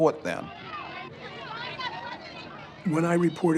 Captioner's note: talking in background